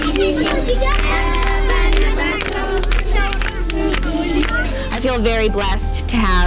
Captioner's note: speaking in foreign language